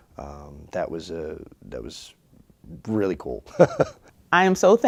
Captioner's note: laughs